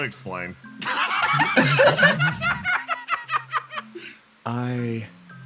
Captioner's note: laughs